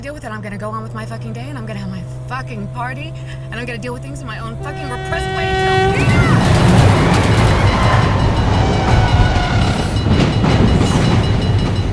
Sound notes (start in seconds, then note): 5.4 train horn; 7.5 brakes screech; 9.6 warning bells clanging